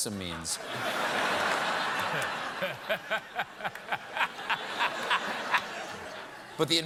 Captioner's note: laughter